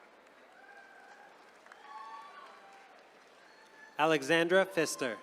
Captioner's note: attendees cheering